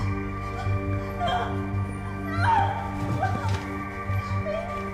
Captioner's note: Gabriella sobbing